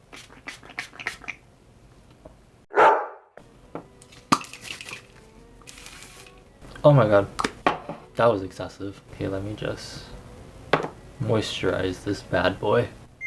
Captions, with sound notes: *spritz* Oh my god. That was excessive. Hey, let me just...moisturize this bad boy.